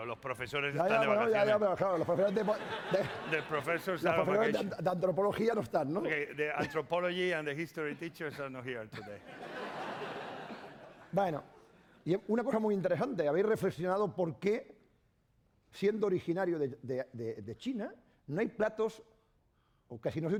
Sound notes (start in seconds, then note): 1.7 speaking spanish; 5.5 speaking spanish; 8.9 laughter; 11.6 speaking spanish